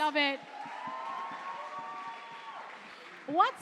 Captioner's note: cheering and applause